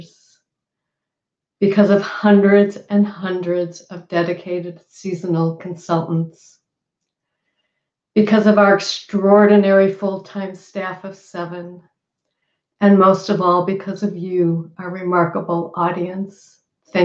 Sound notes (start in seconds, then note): none